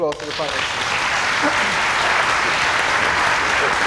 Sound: applause

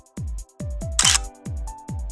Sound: click

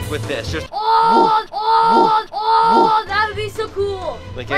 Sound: screaming

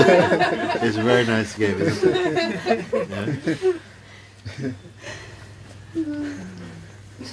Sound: laughter

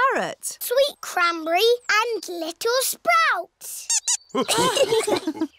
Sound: squeaks; laughter

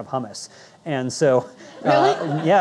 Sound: audience laughing

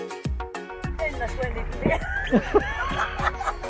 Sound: chuckles

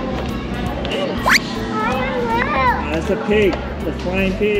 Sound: slipping sound effect

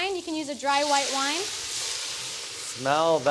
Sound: pan sizzling

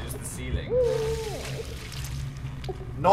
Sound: crying, squelching

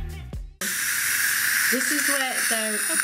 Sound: air whirring

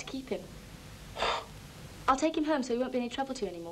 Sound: McIntyre scoffs

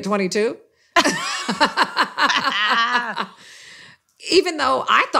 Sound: laughter

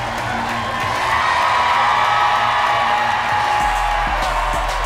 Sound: cheering and applause intensify

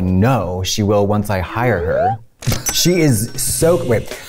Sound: cash register dings

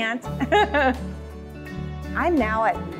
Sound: laughing

